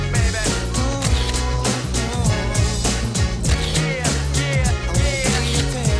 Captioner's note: camera shutter clicks